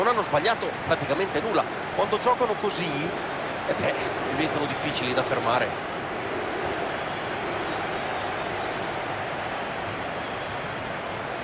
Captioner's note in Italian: Applauso